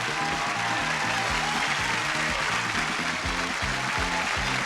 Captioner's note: audience cheering